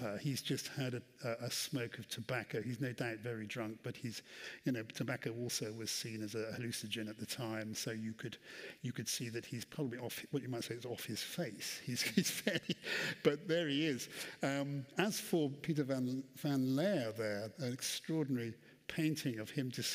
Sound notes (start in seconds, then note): 11.9 laughs